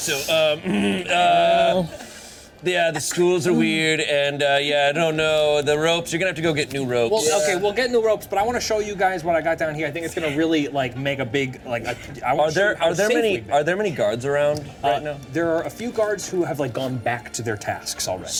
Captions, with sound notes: - So yeah, (clears throat) the stools are weird and yeah, I don't know the ropes. You're gonna have to go get new ropes. - Well, okay, we'll get new ropes, but I wanna show you guys what I got down here. I think it's gonna really like, make a big- - Are there many guards around right now? - There are a few guards who have gone back to their tasks already.